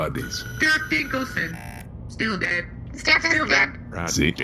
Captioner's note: scanning